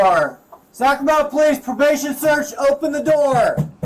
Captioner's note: banging on door